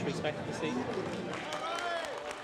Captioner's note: navigators clapping